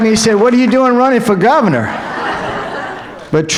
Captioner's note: applause